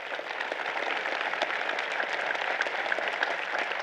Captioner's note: applause